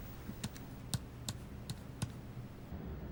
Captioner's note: buttons clicking